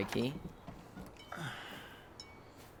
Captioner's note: sighs